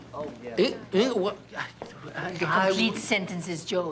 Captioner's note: stammering